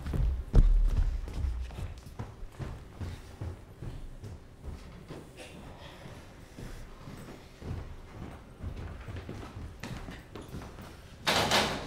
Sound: footsteps

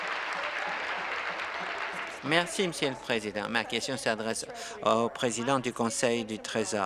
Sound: applause

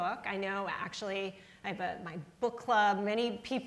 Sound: none

